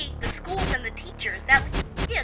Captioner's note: phone garbles